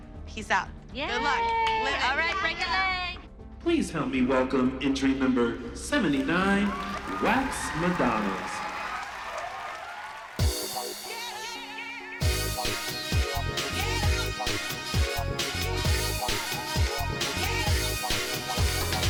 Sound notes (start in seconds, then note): 0.3 cheering; 8.6 audience cheering; 9.8 upbeat dance music playing